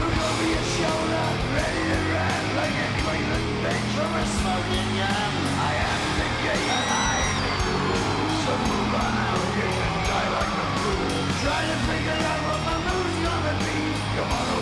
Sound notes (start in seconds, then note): 10.9 audience continues cheering